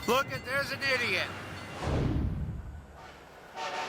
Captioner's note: horn blaring